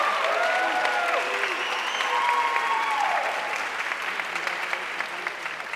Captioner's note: audience cheering and applauding